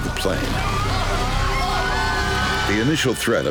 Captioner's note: passengers shouting